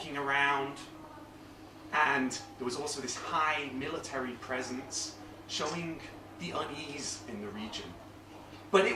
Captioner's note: none